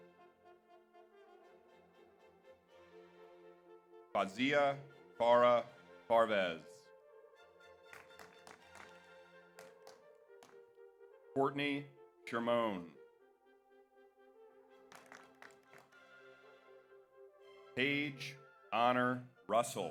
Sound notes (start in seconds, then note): 0.2 slow orchestral music continues; 7.9 audience applauds; 14.8 audience applauds